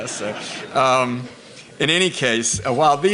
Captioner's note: quiet laughter